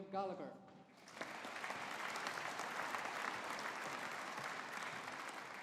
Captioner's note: audience applauding